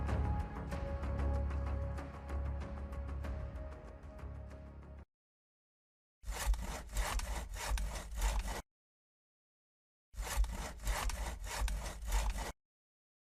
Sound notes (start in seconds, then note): 0.0 suspenseful music continues; 6.2 wood scratching